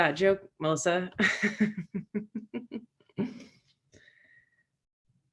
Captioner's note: Megan laughing